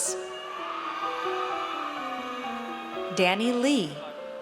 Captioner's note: audience cheers